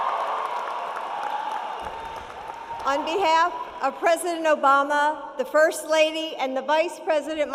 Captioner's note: cheering